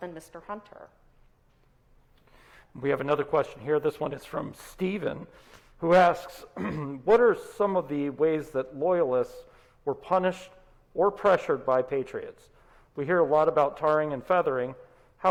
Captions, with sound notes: than Mr. Hunter. - We have another question here. This one is from Steven who asks (clears throat) what are some of the ways that Loyalists were punished or pressured by Patriots? We hear a lot about tarring and feathering.